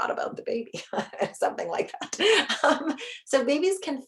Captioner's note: chuckles